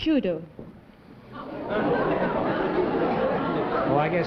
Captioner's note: laughter